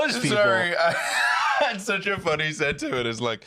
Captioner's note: laughs